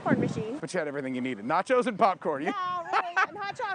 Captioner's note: laughing